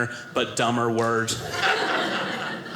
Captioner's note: audience laughing